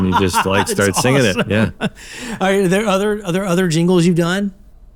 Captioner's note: laughs